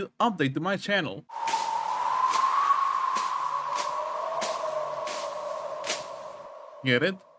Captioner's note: tumbleweed sounds